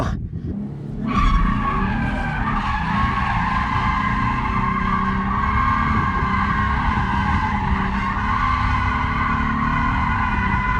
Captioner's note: engine revving